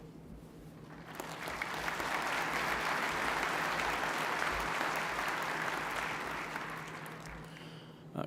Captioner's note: applause